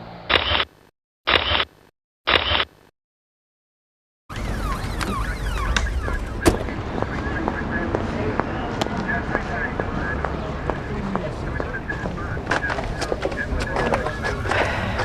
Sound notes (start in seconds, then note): 0.3 camera shutter clicking; 4.2 traffic whooshing; 4.3 siren wailing; 7.3 footsteps clacking; 7.3 radio muttering